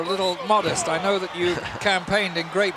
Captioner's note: chuckling